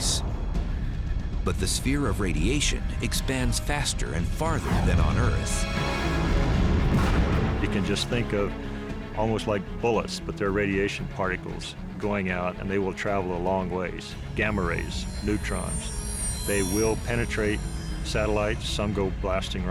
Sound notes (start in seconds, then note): 6.7 explosion